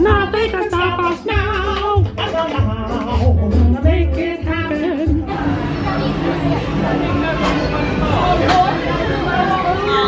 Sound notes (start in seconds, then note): 0.1 mimics vocals; 6.3 guests chattering